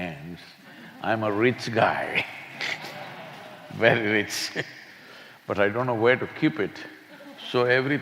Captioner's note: laughs